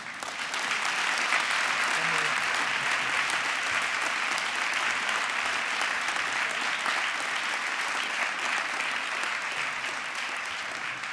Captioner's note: applause